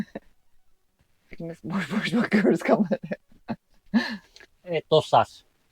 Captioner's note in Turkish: kahkaha